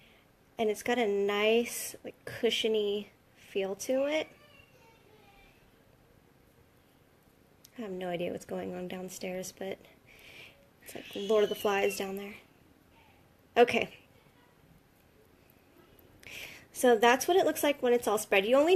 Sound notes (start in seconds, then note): 4.2 child yells